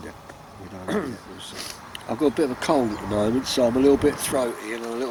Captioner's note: coughs